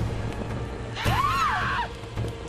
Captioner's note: Bass Screaming